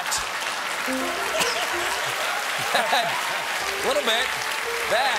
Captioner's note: applause; laughter